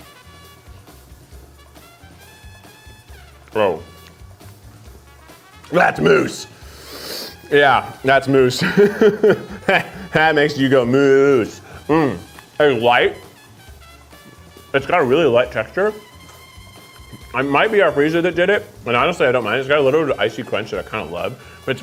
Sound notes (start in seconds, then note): 0.1 lively music; 8.4 laughs